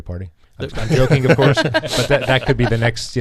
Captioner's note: laughing